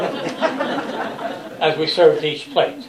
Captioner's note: laughter